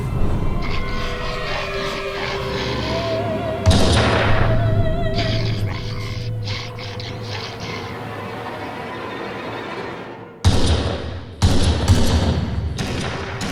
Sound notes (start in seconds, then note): 0.3 demonic growling; 3.8 gunshot booming; 5.0 eerie music; 10.4 gunshots booming